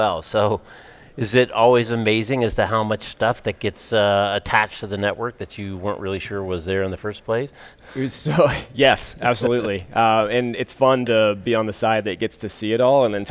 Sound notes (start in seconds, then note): 9.1 laughs